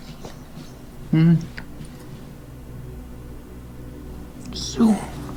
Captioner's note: victim moans